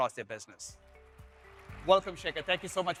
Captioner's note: audience applauding